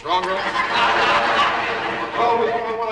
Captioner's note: audience laughs